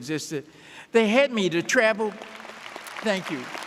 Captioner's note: audience applauding